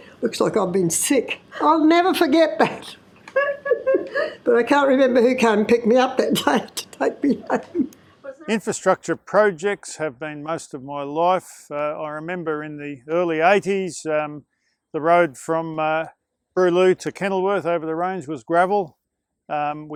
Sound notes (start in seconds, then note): 7.1 laughs